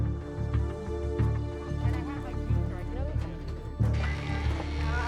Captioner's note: chatter